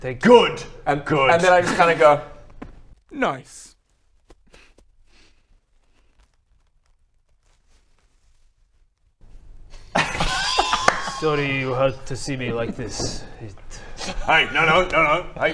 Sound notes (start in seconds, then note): 3.7 pat pat pat; 5.0 sniff; 6.8 awkward silence; 9.8 awkward laughter